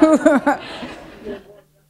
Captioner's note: laughter